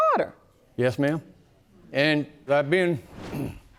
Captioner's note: clears throat